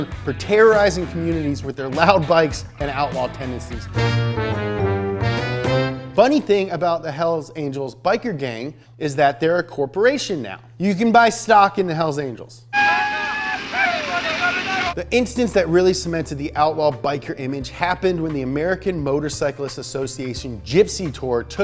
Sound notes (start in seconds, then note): 4.1 fun music; 12.7 guy screaming